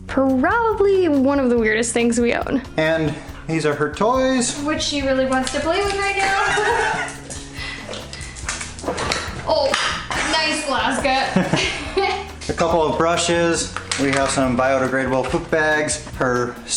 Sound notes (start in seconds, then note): 6.2 laughter; 11.2 laughter